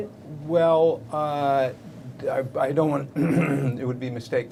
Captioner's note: clears throat